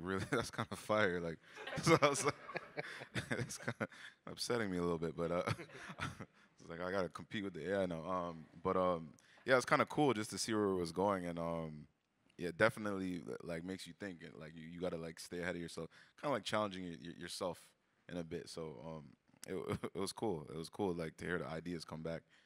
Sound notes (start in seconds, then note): 1.6 chuckles; 1.6 all laugh